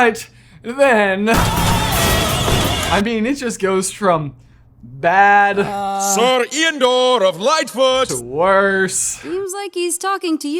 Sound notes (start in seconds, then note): 1.3 opera music; 1.3 car crashing